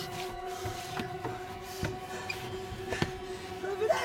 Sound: hard breathing

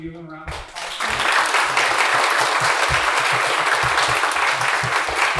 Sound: audience applauding

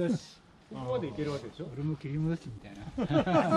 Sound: laughs

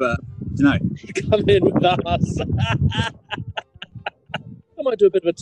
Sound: laughing

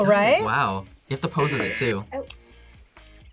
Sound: buzzer

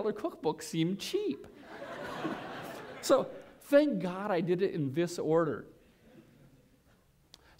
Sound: laughter

